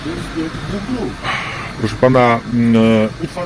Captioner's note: heavy sigh